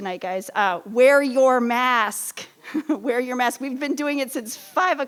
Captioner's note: laughs